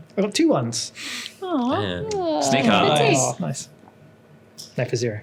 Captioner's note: players awwwh